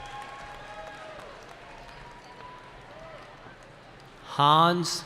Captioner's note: cheering